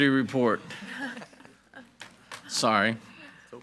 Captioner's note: group laughs